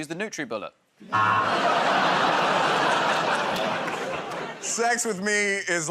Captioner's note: audience "Oh"s